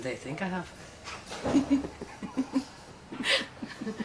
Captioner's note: both laughing